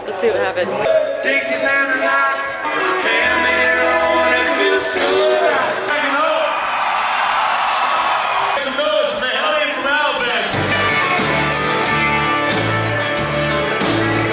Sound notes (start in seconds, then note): 0.6 loud country music; 6.5 crowds cheering; 11.1 loud country music